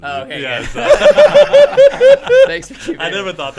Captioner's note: men laughing